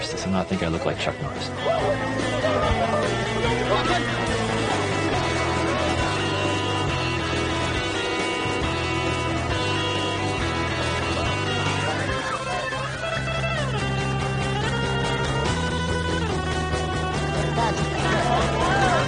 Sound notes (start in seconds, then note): 1.5 actors grunting; 2.2 upbeat music; 7.2 upbeat music